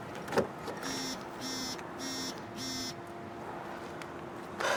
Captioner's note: phone buzzes